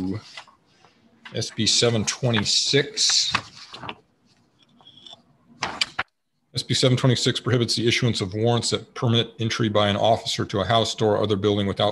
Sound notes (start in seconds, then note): none